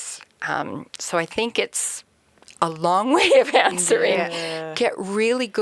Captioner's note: laughs